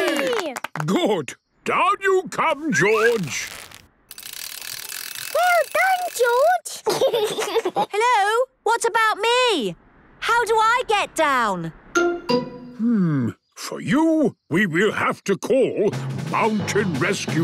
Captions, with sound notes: - Good! Down you come, George. - Well done, George! (giggles) - Hello? What about me? How do I get down?! - Hmm.... For you, we will have to call Mountain Rescue!